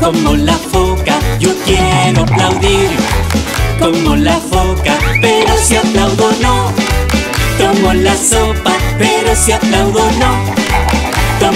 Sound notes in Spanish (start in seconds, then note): 3.0 Sonido de aplausos; 6.7 Sonido de aplausos; 10.6 Sonido de aplausos